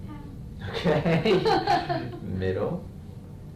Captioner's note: and patient laugh